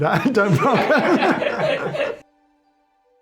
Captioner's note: laughs